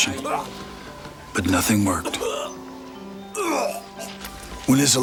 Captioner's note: Anthony coughs